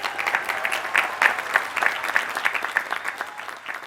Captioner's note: applause